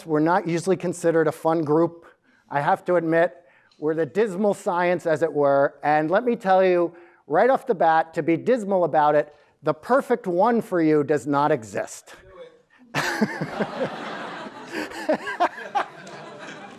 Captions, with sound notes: we're not usually considered a fun group, I have to admit, where the dismal science as it were, and let me tell you, right off the bat to be dismal about it, the perfect one for you does not exist. (laughs)